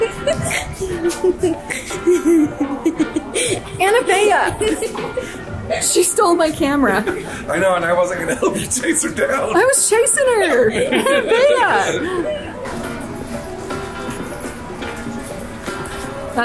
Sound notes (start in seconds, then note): 11.5 all laughing; 14.5 upbeat music